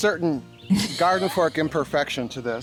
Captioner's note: woman laughing